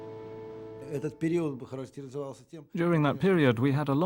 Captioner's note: speaking Russian